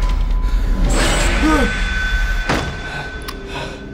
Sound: breathing; door shuts

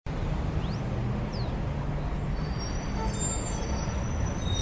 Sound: street buzzing

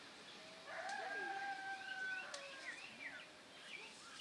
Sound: rooster crows

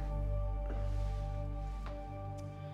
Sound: sighs

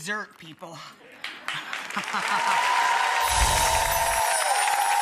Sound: audience cheering

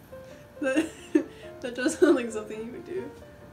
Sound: laughs

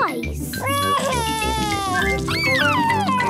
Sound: crying

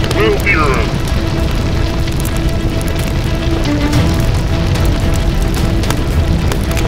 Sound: fire crackling

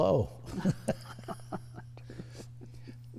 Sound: all chuckle

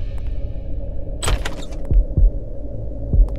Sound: door opens

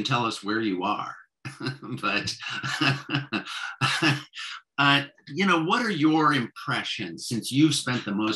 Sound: laughs

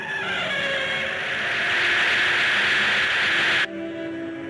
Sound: capsule crackling

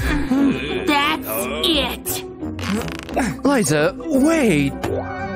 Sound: puffs

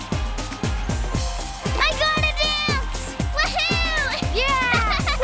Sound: kids laugh and cheer

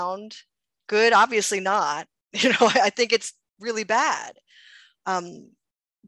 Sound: chuckles

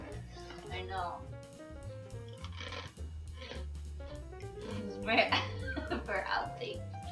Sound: laugh

